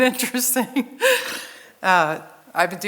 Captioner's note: laughs